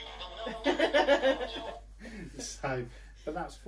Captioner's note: laughter